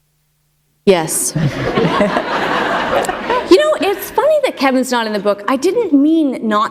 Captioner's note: laughter